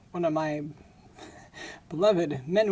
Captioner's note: laughing